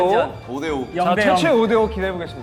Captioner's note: confident